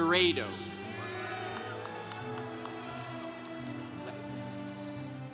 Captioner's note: congregation cheering